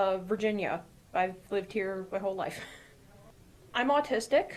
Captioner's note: chuckling